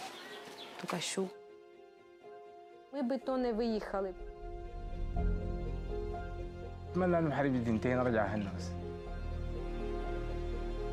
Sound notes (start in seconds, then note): 3.3 speaks Spanish